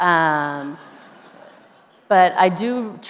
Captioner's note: everyone laughing